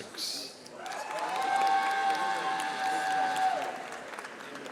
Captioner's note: audience applauding